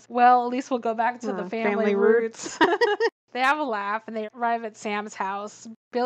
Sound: laughs

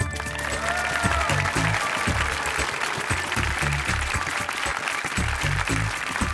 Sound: applause

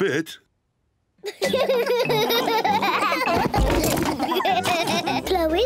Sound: all laugh

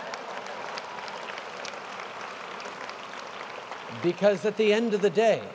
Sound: applause

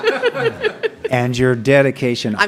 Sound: laughter

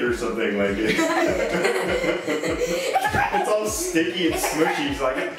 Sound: all laughing

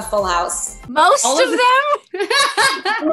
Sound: Jodie laughs; Jodie chuckles; chuckles

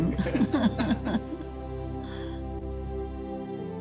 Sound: laughs; enlightening music

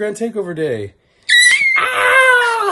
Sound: baby squealing; yelling

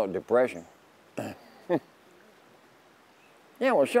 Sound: laughing

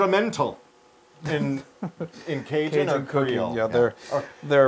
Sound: laugh

